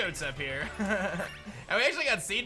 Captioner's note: chuckles